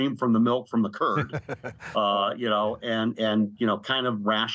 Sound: laughing

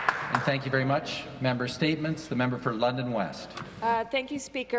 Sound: some Applause

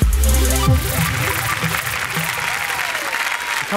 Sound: audience applauding

